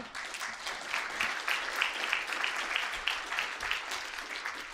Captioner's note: audience applauding